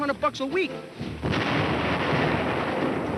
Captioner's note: bomb exploding